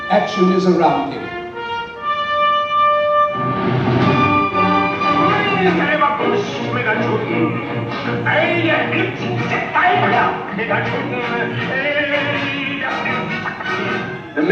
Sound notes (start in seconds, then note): 5.0 speaking native language